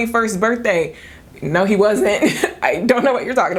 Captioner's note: laughing